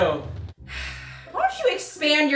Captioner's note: sighs